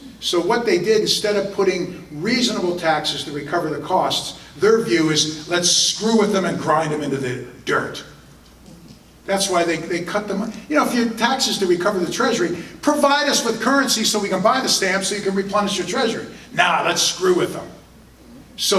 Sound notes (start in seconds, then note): none